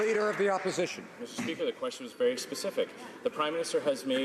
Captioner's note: applause